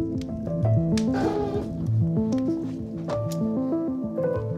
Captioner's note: door creaks